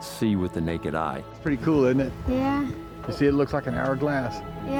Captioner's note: voices